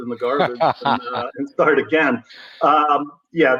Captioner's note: laugh